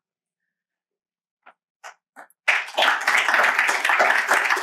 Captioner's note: applause